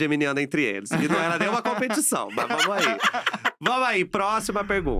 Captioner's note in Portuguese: risos